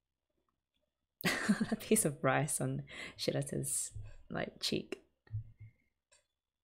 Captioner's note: laughs